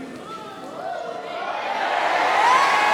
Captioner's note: crowd ayy-ing